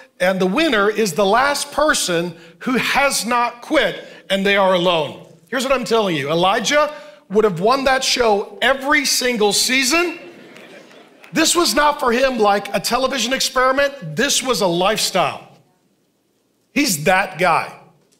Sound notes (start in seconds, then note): 9.9 congregation laughing